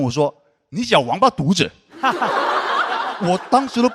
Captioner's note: in a northern dialect